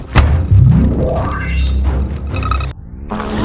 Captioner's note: dunk kick; QN3 powers on